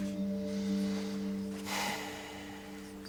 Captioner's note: Rembrandt sighs